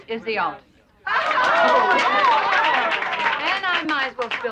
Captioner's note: cheering